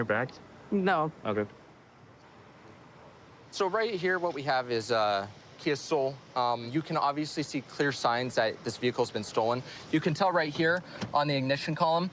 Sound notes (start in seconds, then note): none